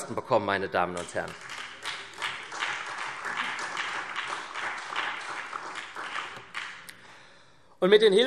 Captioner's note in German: Beifall SPD